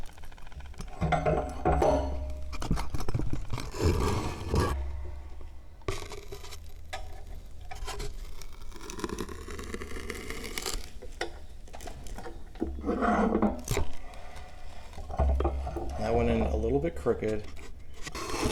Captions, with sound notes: [Sound of wood fibers compressing] That went in a little bit crooked.